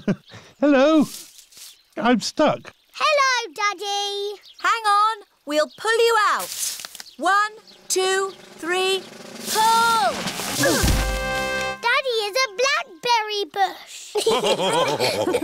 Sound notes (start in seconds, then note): 10.5 all grunt; 14.1 all laughing